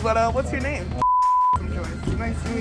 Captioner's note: beep